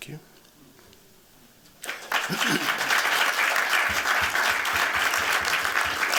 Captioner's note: applause